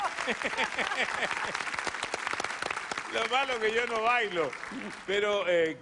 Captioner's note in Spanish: aplausos